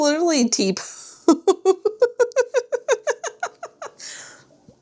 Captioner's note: laughter